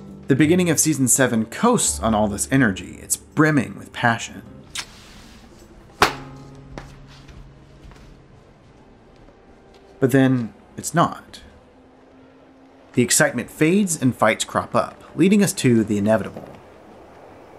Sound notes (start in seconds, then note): 6.0 slap